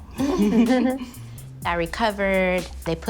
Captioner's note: laughing